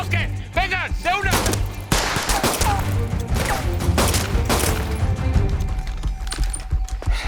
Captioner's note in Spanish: Disparos